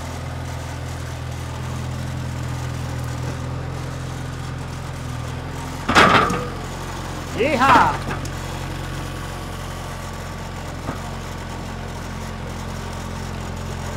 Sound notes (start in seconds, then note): 9.5 vehicle whirring